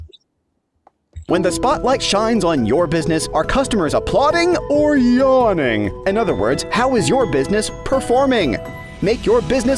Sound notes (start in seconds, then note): 1.1 voiceover